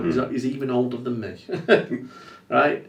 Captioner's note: laughs